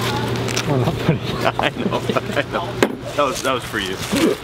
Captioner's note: laughs